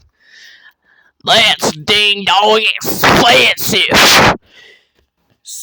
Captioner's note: in a country accent